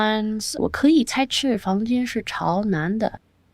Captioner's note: speaking chinese